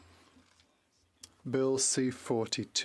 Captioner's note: speaking French